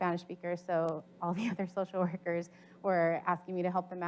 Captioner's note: chuckles